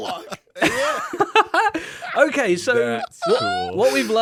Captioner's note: laughs